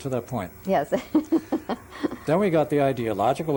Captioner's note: laughs